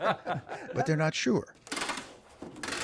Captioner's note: laughter